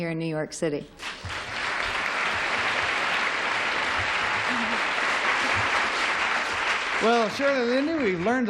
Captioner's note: applause